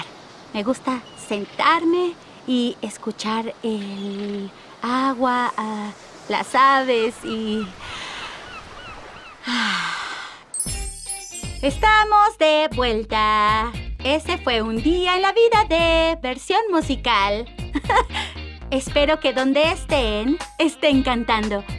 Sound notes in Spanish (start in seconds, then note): 6.8 canto de gaviotas; 7.8 suspira; 17.3 ríe